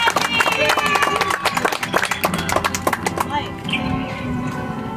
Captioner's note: audience applauds